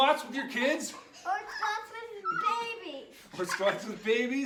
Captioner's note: kids laugh